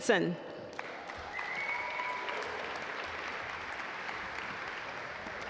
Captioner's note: audience applaud